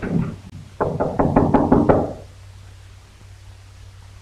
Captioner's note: knocks